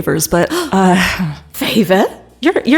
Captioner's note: gasps